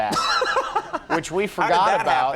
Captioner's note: Conan laughs